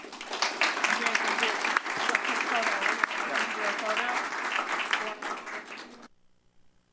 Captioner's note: applause